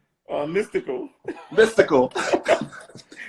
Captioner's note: laughing